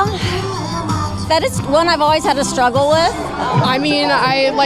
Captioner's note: sigh